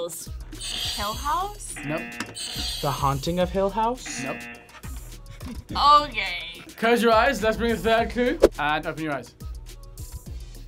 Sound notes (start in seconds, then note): 1.7 buzzer; 1.7 buzzer rings; 4.0 buzzer; 4.0 buzzer rings